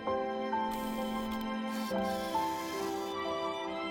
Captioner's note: whir